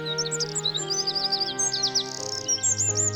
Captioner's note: birds chirping